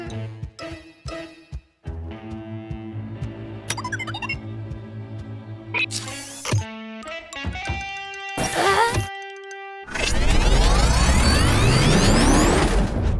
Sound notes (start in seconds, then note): 0.3 troubling music; 3.9 machine beeping; 8.4 Malice gasps; 9.9 machine whirring